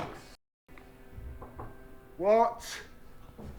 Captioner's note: door knocking